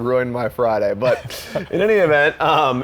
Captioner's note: laughing